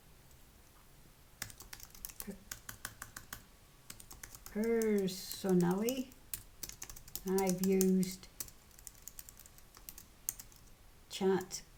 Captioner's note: typing